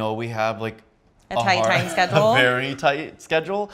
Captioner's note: laughs